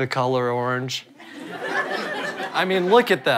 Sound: audience laughter

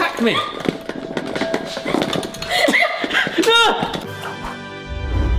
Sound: laughing

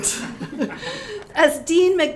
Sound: all laughing

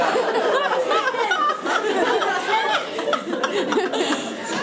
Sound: audience laughing and chattering

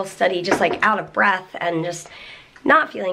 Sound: none

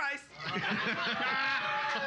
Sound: loudly laughing

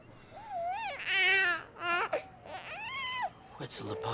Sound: cooing

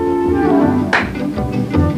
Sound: clap

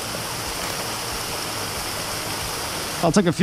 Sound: shutter closes

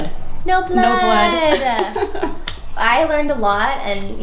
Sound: laughing

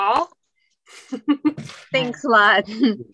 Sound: laughs

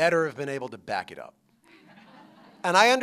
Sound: laughter

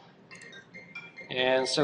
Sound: phone rings

